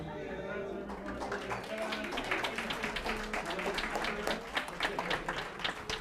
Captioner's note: applause